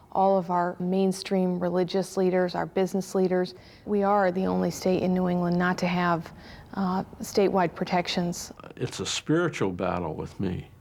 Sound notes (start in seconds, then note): none